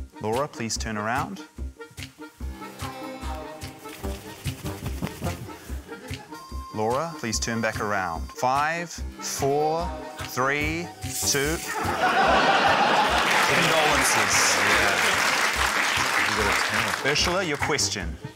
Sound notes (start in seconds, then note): 11.6 laughter; 12.9 applause